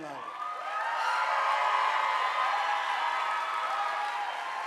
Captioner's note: audience applauding